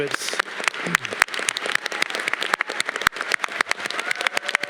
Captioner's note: audience clapping